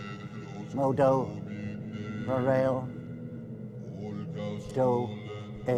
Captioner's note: speaking in foreign language